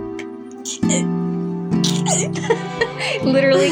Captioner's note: romantic Music; flustered Squeaks; laugh